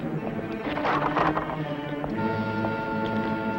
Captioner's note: wood clangs on road; dramatic music